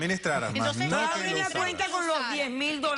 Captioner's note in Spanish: Hablan al unísono